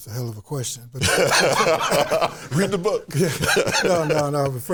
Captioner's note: laughs